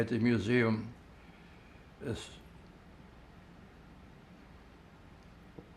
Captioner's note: pauses 6 seconds